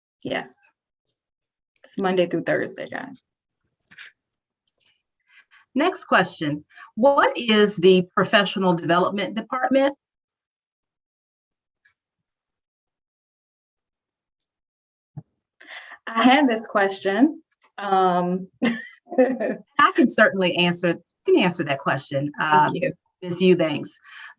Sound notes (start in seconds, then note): 18.6 laughter